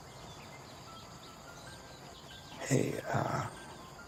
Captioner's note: sighs